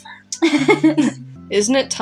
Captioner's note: giggle